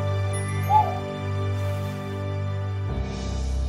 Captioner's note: dramatic music continues; owl hoots; mysterious music